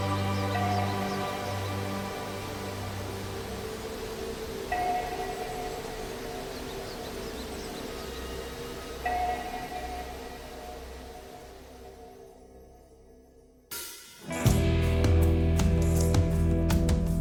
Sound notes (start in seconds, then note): 7.1 waterfall sound gradually fades